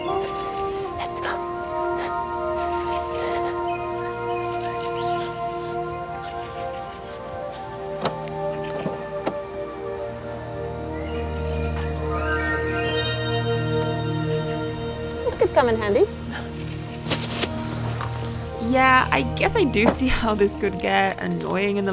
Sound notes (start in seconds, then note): 0.1 somber music; 6.1 birds chirping